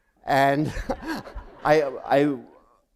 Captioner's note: laughter